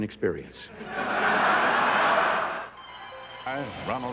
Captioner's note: laughter